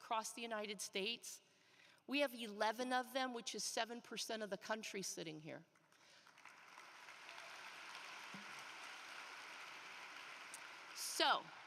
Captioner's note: applause